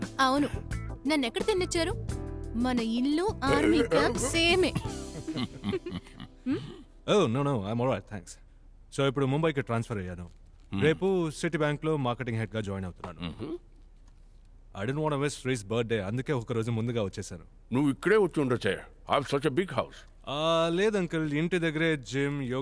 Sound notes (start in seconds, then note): 5.3 Laughs